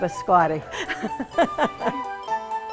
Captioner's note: laughing